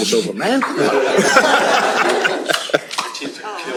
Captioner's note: laughter